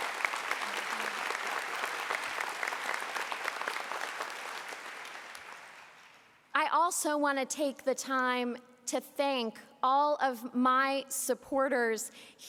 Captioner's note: applause